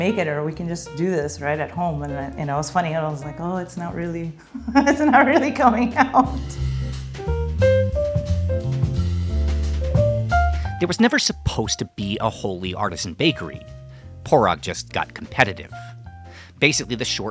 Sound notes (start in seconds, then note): 9.8 laughing